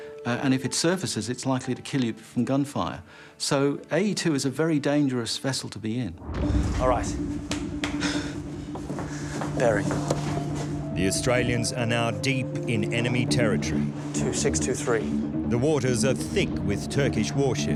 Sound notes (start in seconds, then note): 7.9 sighs